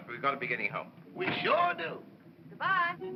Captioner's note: door closes